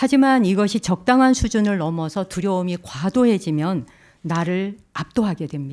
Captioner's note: speaking in Korean